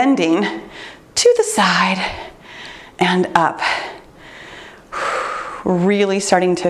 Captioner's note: breathes deeply